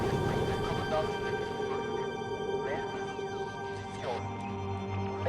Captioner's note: radio static crackling; ship creaking; man speaking in foreign language